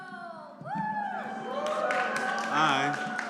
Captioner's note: cheering